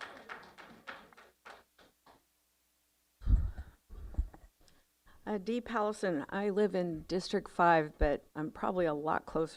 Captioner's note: applause